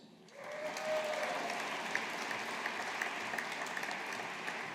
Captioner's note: audience applauding